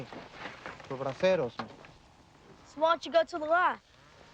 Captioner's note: speaking in foreign language